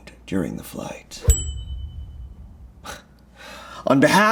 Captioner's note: bell dinging